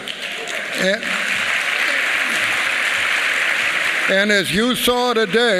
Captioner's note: applause